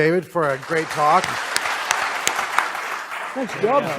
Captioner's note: applause